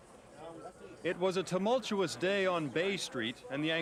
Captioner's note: indistinct chatter